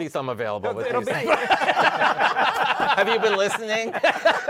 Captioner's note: laughter